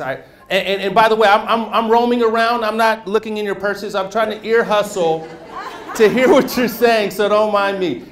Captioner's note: laughter